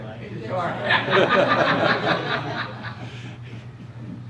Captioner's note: crowd laughter